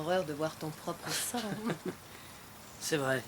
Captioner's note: both laugh